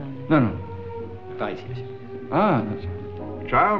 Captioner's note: French spoken audio